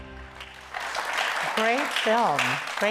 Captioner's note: audience applauds